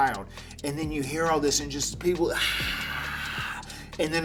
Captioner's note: screaming